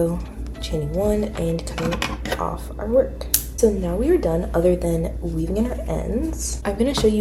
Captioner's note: scissor cuts